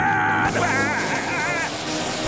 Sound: screaming

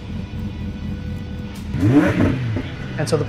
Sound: car engine revving

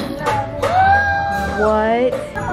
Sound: gasps

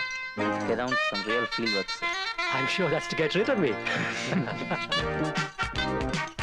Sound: indistinct Voices

